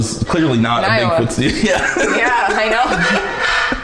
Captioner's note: laughs